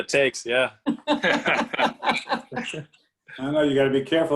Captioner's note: laughing